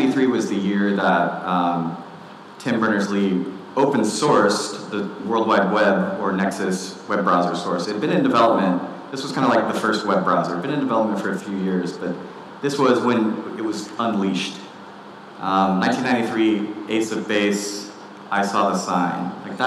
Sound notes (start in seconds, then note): none